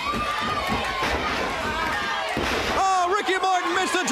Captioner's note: crowd chatter